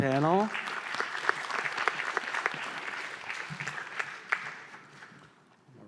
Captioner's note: applause